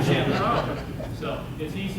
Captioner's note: audience chuckles